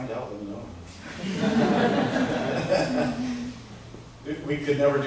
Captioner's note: laughter